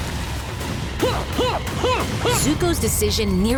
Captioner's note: grunting